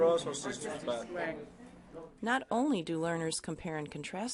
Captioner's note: voiceover